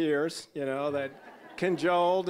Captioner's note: audience laughing